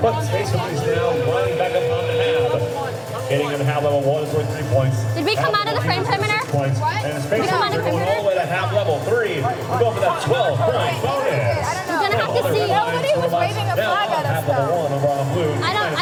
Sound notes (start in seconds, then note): 0.0 horn blares